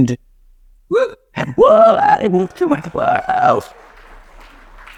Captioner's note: participants cheering